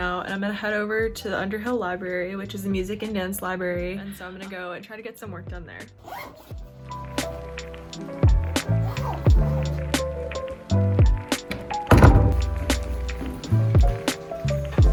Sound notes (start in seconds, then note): 6.0 backpack unzips; 7.3 upbeat music; 8.7 backpack zips; 11.4 door closes